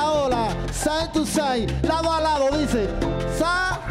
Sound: speaking in Spanish

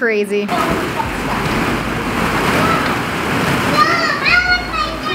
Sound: balls shuffle around

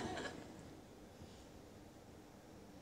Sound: few Laugh

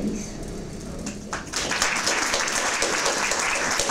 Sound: applause

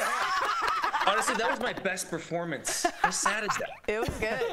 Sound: laughter; laughter

